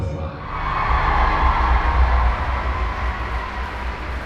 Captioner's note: audience cheering